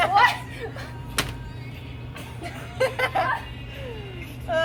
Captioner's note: both laugh hysterically